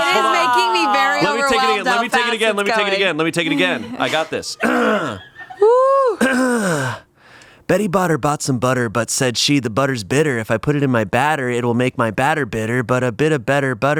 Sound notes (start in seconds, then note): 6.2 clears throat